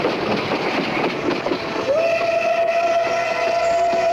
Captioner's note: train hooting